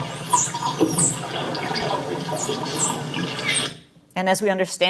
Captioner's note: dolphin squeaking